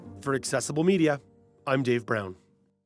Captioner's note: voiceover